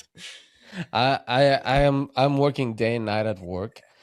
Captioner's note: laughs